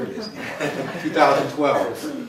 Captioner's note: laughter